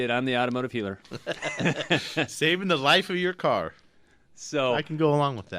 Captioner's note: both laugh